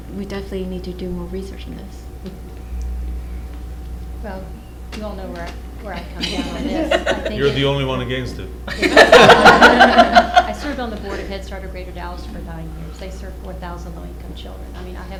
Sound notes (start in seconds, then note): 8.6 laughter